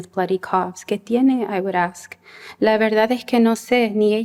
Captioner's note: non-english speech